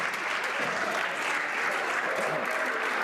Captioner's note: some Applause